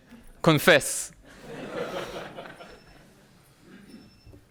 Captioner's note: audience laughing